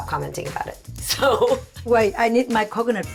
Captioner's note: laughing